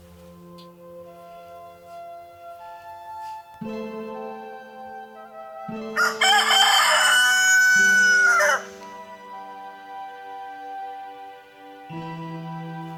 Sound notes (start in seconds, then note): 0.1 gentle music; 5.9 rooster crows